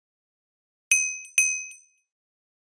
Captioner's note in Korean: 띵 x 2